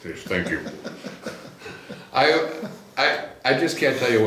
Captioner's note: laughs